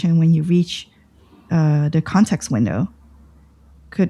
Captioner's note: uh